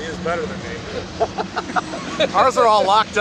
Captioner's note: laughing